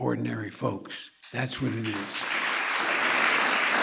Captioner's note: applause